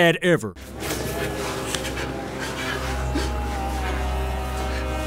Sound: groaning sounds

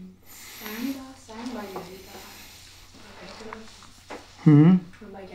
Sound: speaking foreign language

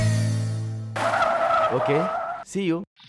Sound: brakes squeal

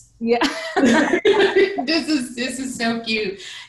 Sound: laughing loudly

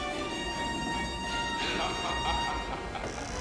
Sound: Chattar laughing

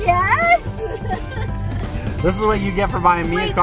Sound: laughing

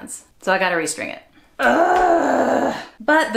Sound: frustrated grunt

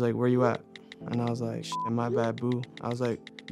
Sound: beep

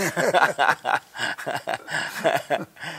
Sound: laughs

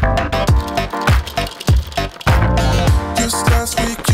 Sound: coffee filters shuffle; coffee beans rattle

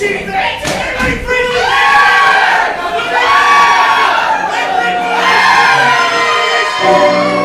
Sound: all scream

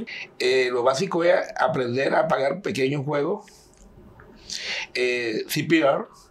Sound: speaking in Spanish

